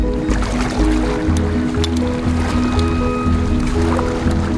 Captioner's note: water splashes